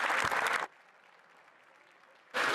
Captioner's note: some Applause